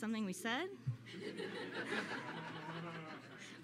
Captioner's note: laughter